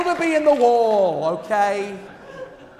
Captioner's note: applause